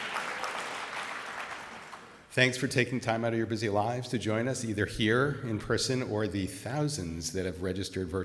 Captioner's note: applause